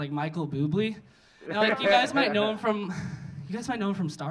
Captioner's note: audience laughing